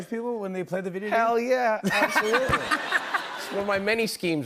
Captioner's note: laughter